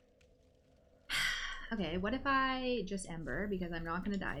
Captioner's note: sighs